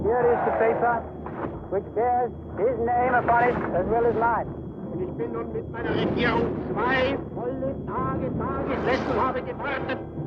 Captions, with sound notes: - And here is the paper which shares his name upon it as well as mine. (man speaking German)